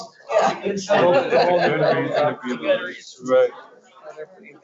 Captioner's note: laughs